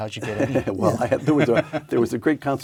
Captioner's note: laugh